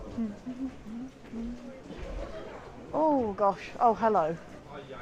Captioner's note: hums